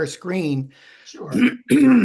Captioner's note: clears throat